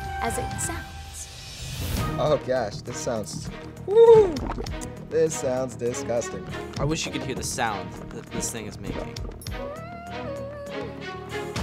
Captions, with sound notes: as it sounds. Oh gosh. This sounds... woo! This sounds disgusting. I wish you could hear the sound that this thing is making. [whining]